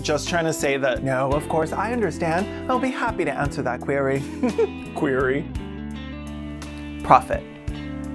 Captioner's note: chuckles